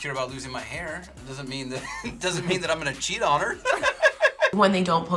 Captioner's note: laughs